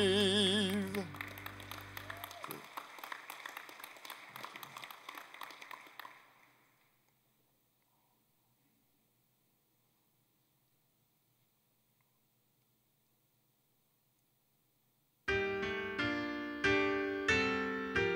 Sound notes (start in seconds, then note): 1.7 applause